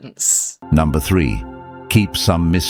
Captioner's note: AI Voice